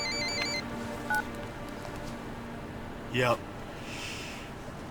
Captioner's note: phone beeping